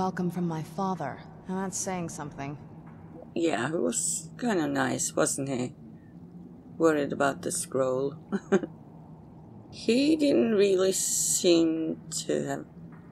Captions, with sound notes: Yeah he was kind of nice, wasn't he? Worried about the scroll.. (laughs) He didn't really seem to have..